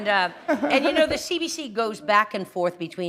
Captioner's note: chuckle